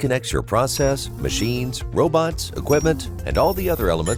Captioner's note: machines beeping